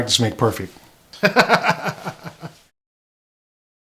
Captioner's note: laughs